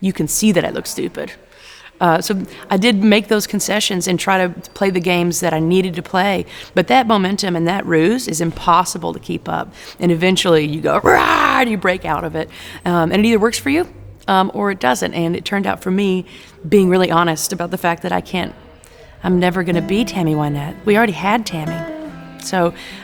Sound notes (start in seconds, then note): 11.0 roars